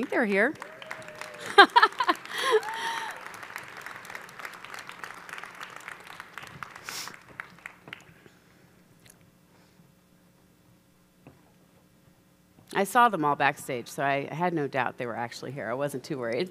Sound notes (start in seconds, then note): 0.3 audience applauding